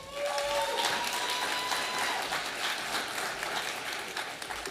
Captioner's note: audience applauding